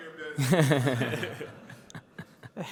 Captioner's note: laughter